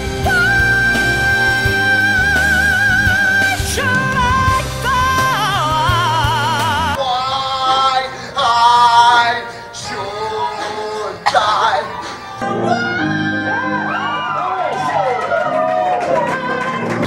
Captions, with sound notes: 왜애애애애애애애애애애애애애애애애애애 나는 한국어를 모른다 왜 why i should die (woman coughs) WHYYYYYYYYYYYYY WHYYYYYYYYYYYYY [Crowd Cheering]